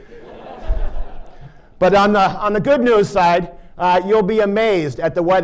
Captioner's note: laughter